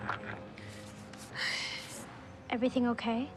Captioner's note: sighs